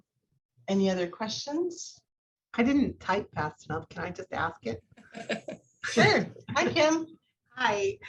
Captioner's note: laughter